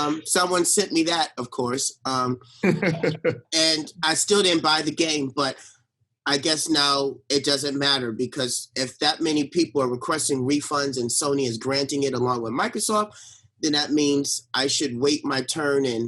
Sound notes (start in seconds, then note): 2.6 laughs